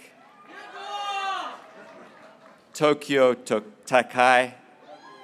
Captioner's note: graduates cheering